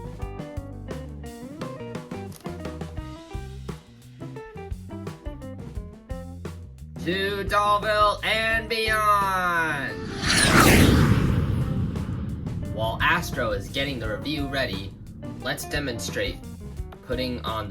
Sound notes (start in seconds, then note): 0.5 jazz music playing; 9.8 jetpack sounds